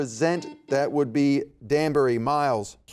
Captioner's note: buzzer beeping